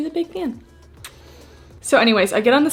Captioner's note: pecking passionately